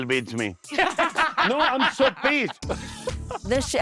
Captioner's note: laughing